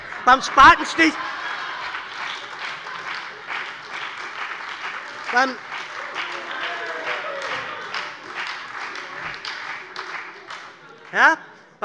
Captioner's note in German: Heiterkeit und lebhafter Beifall bei der SPD und der FDP